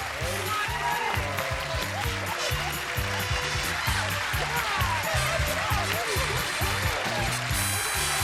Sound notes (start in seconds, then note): 5.4 applause